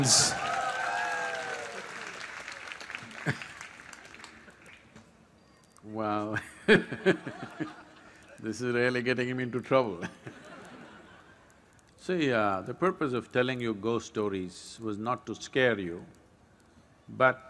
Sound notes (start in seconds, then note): 0.0 applause; 6.6 laughs; 10.2 laughter